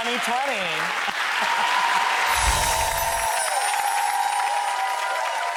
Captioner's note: audience applauds